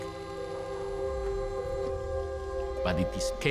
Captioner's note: whirring